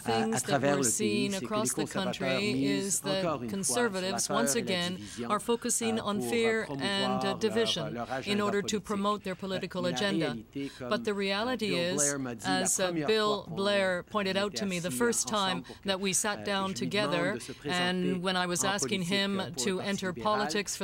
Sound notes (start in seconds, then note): 2.8 speaking french